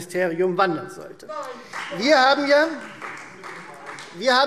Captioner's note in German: Beifall Freie Demokraten